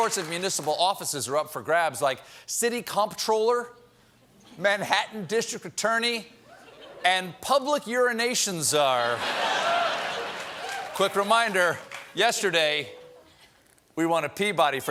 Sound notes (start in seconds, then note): 9.0 laughter